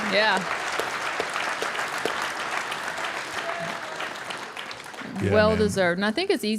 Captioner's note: audience applauding